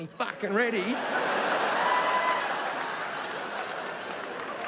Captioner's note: audience laughing